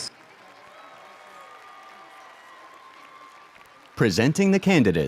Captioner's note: audience applauds